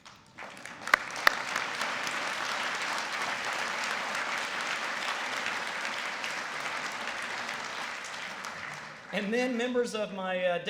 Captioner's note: applause